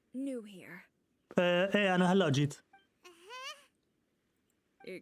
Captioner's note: coughs